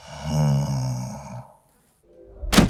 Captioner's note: snoring